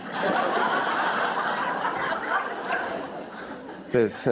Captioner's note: laughter